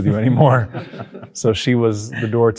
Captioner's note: everyone laughs